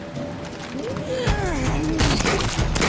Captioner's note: grunting